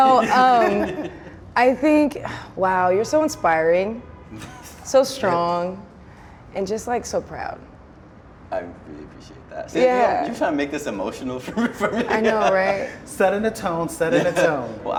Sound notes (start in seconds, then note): 11.5 laughs